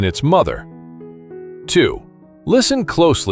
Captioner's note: thoughtful